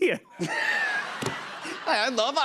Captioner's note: laughter